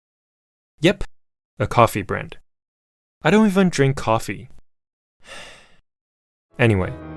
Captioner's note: sigh